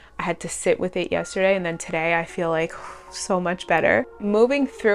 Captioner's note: big exhale